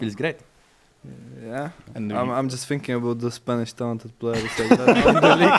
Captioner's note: all laugh